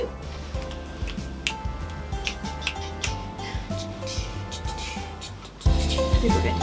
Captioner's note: snaps fingers and dances